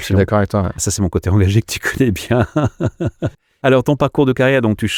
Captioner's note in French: Rires